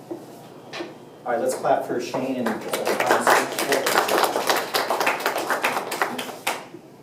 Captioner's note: applause